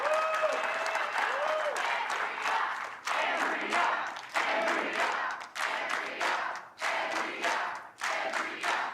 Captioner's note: applause